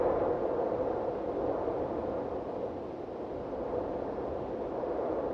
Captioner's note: wind whistling continues